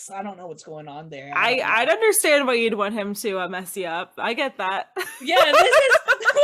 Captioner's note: laughing